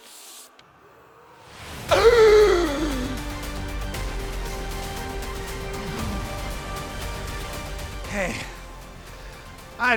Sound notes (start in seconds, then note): 0.1 paper rustles; 1.9 gasps; 3.3 urgent music